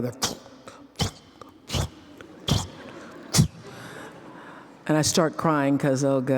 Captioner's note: flop, flop, flop